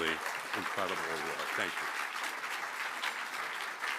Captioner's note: applause